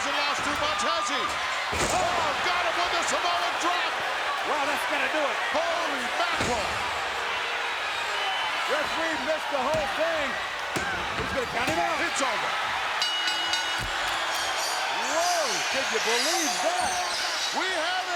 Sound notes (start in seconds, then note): 12.8 bell rings